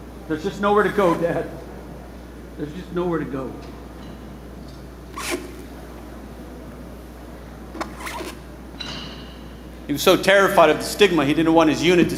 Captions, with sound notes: There's just nowhere to go, dad. There's just nowhere to go. [boots squeaking] He was so terrified of the stigma, he didn't want his unit